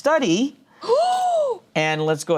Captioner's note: gasps